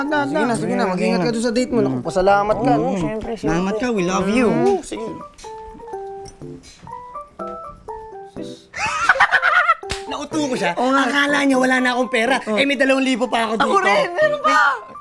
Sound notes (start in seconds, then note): 8.7 laughs